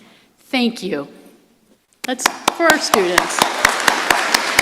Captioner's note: applause